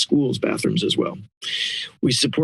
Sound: inhales

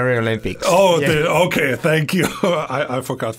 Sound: laughing

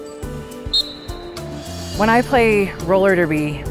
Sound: upbeat piano music; whistle blows

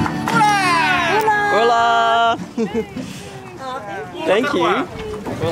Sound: speaking in foreign language

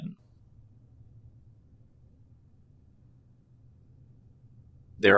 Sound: silence

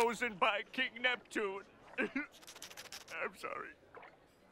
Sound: voice breaking

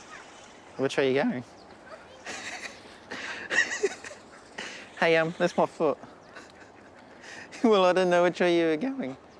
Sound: laughs; laughs

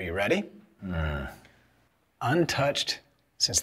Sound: Jesse groans

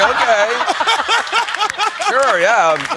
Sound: laughter

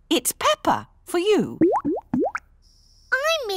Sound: bubbling

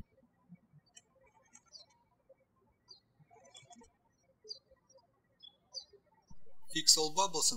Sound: birds chirping

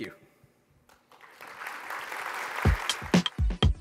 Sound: applause

